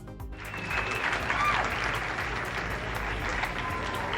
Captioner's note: audience applauding